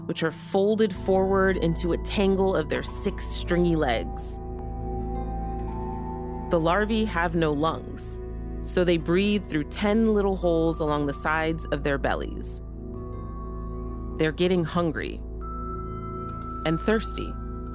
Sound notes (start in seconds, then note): none